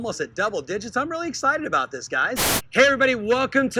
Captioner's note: static